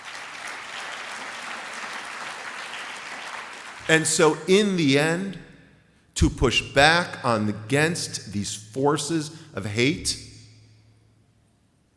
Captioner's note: applause